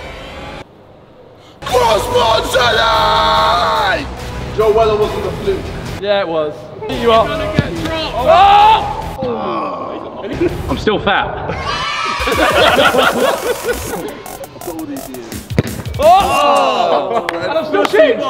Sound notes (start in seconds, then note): 1.5 yelling